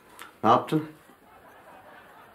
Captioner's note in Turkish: Gülme efekti